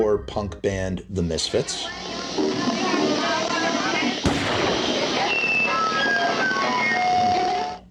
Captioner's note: guitar feedback, gunshot